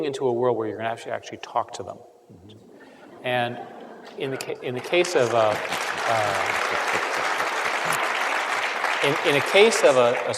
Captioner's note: applause